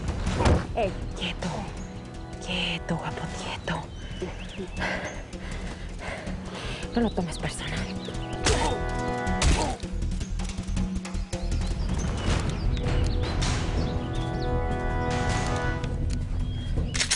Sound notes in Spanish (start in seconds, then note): 8.5 Golpes; 9.4 Quejidos